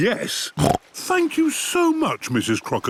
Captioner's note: snorts